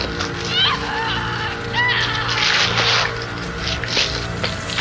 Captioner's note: Rainey screaming